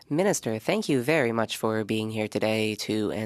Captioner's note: speaking French